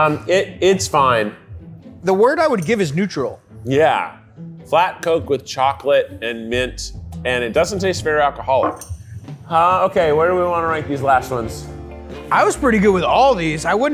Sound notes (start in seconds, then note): none